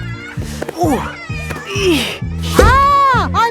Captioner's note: grunting